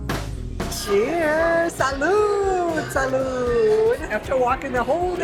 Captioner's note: in English and Spanish